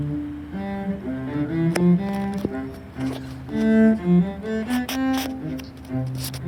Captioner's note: cello continues; more hand shuffling noises